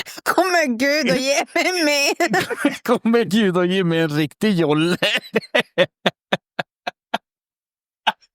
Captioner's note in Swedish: skratt